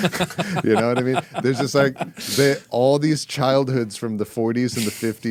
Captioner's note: laughing